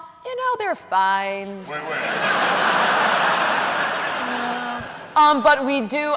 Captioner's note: laughter